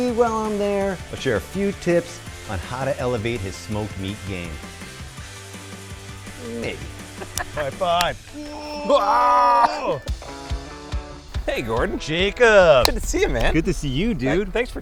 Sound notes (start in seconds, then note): 8.3 screaming